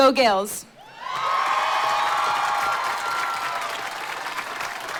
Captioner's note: applause